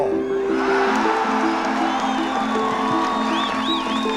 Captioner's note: applause